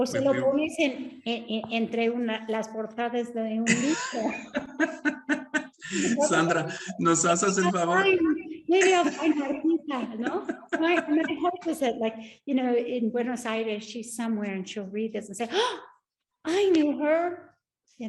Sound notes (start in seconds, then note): 0.1 Sandra speaking Spanish; 3.6 both laughing; 6.3 Sandra speaking Spanish; 6.3 speaking Spanish; 15.5 gasps